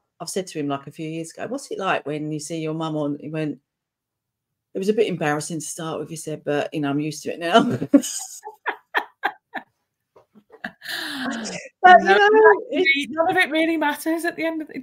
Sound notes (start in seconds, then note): 12.0 laughing